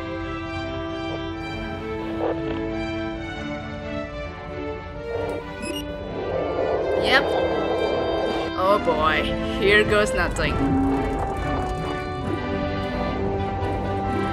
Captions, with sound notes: *Trap explodes *pipe creaaaaaak* Yep. *pipe creaaaaaak* *pipe creaaaaaak* Oh boy, here goes nothing. *pipe creaaaaaak* *pipe creaaaaaak*